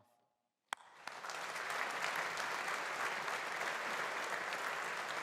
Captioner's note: audience applauding